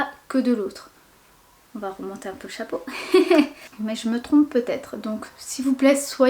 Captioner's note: ha ha